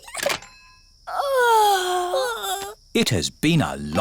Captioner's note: giggles; both yawn